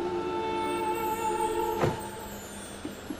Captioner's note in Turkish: Müzik - Duygusal; Kapı kapanma sesi; Araba sesi